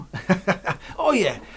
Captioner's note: laughs